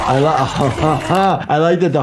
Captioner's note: laughs